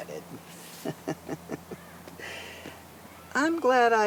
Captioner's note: chuckling